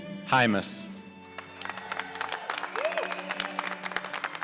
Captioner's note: applause